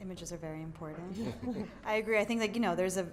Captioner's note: laugh